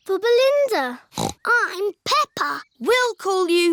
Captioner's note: snorts